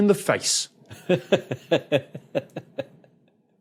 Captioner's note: chuckles lengthily